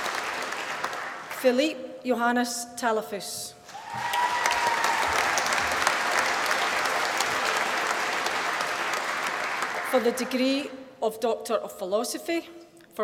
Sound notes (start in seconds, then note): 3.7 applause